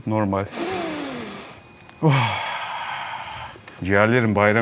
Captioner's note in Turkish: Derin bir nefes